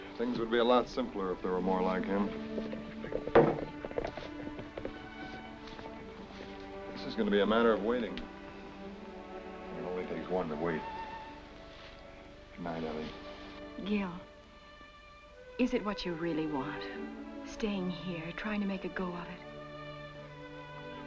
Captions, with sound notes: - Things would be a lot simpler if there were more like him. (muffled hooves clop) This is gonna be a matter of waiting, and it only takes one to wait. Goodnight, Ellie. - Gil. Is it what you really want? Staying here, trying to make a go of it?